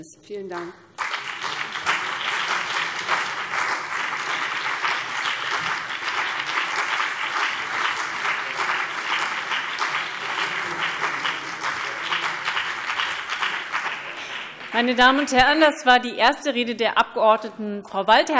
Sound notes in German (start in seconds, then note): 0.9 Beifall BÜNDNIS 90/DIE GRÜNEN und CDU